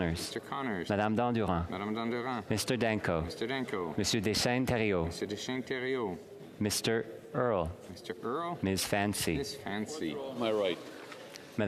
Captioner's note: calling of recorded vote